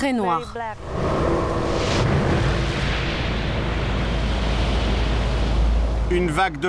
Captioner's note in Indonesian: suara gelombang kuat